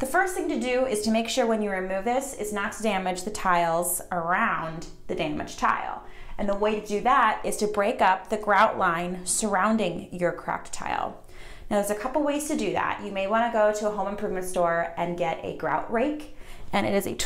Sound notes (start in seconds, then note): none